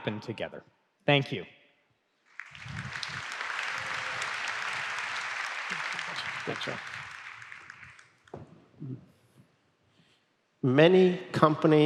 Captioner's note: applause